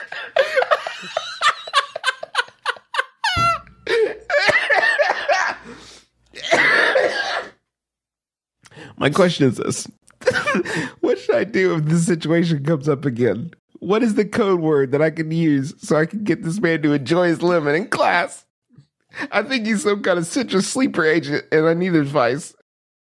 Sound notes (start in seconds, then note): 0.0 ridiculous laughter; 4.1 coughing